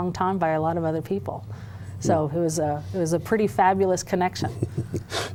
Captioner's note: laughter